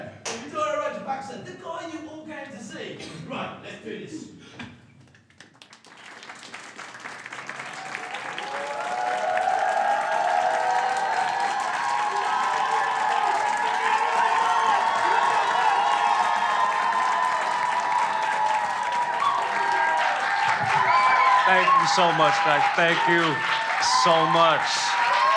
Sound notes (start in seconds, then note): 6.3 crowd clapping; 8.6 crowd cheering